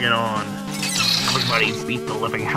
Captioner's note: tentacle screeching